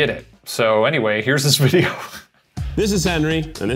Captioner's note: laughing